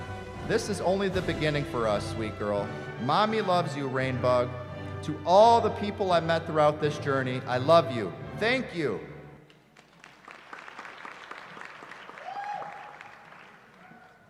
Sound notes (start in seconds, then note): 9.5 applause